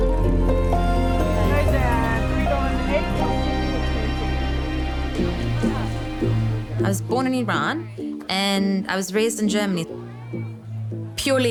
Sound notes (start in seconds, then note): 1.8 speaking in foreign language